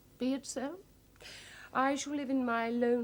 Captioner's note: sighs